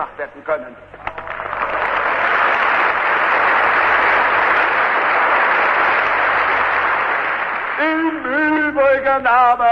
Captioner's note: applause